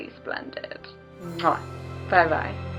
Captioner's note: kiss